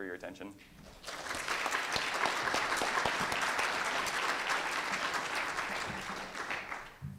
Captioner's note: applause